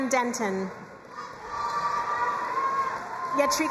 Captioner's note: crowd cheering and applauding